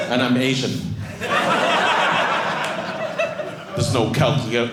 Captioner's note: audience laughing